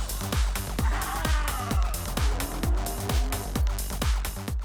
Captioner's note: up-beat music; dinosaurs roar